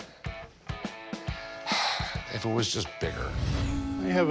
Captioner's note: sighs